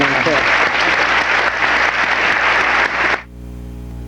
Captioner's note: audience applauding